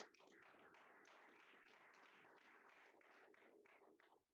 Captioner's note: applause